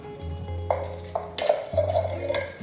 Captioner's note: hollow clunking